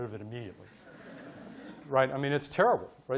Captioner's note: audience laughing